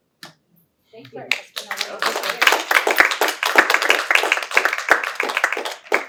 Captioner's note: applause